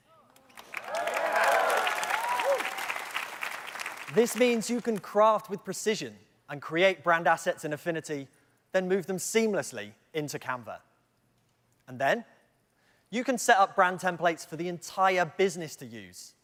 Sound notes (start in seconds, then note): 2.2 applause